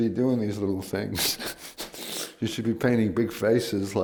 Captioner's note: laughs